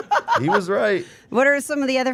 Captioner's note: Steph laughing